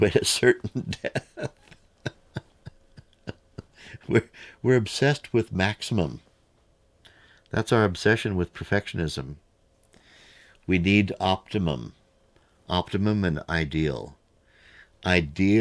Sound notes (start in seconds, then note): 1.7 laughs